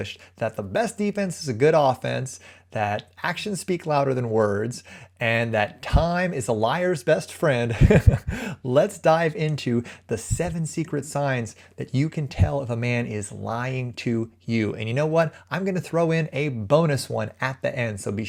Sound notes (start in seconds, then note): 7.7 chuckles